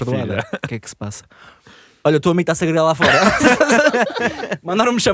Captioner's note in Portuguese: risos